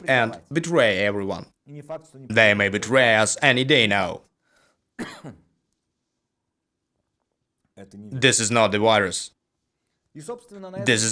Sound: coughs

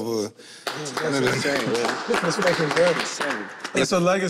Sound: all clap

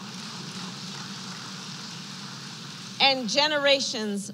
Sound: applause

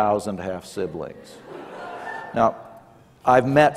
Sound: laughter

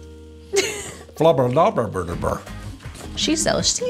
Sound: laughs

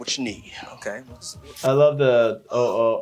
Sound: spray spritzing

